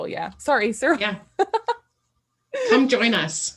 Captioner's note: laughing